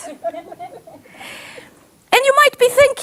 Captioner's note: audience laughs